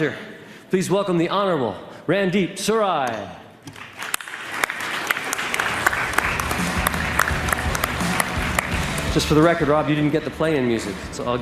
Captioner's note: applause